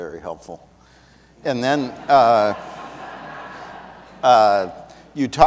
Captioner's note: audience laughs